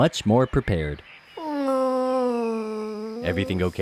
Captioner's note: sad moan